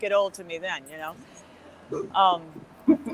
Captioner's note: laughs